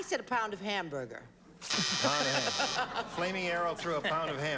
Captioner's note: buzzer